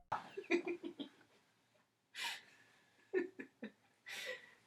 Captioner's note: laughing